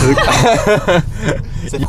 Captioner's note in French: rires